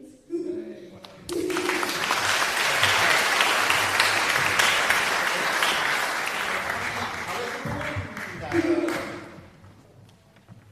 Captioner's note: applause